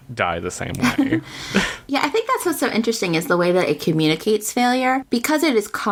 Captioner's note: laughs